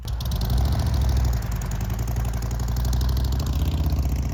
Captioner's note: engine rumbling